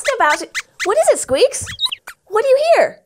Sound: squeaks squeaks

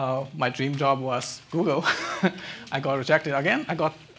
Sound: chuckles

